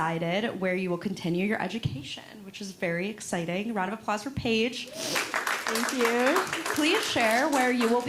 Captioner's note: audience applauds